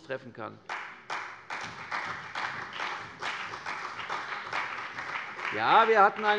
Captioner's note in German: Beifall bei der CDU und dem BÜNDNIS 90/DIE GRÜNEN